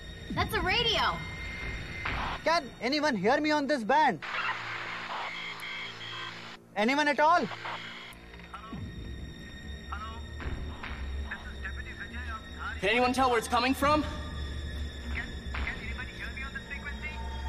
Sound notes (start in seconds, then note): 3.7 music fades; 4.2 radio static; 8.3 radio